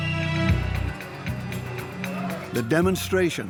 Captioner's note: whistles blow